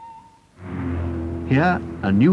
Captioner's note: traffic sounds